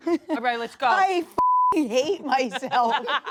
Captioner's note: beep; everyone laughs